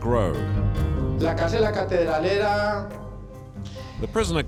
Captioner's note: Spanish spoken audio